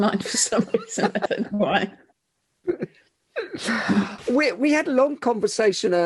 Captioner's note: both laughing